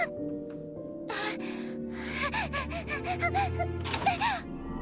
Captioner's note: panting